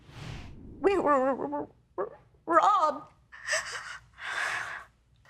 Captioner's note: voice breaking